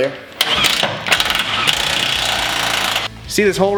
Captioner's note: drill whirring